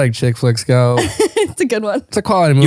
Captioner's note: laughing